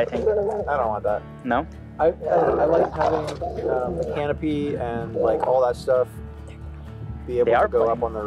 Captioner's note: dogs growling and playing